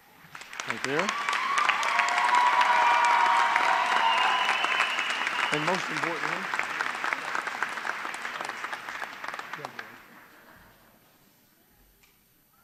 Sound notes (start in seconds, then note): 5.8 cheers and applause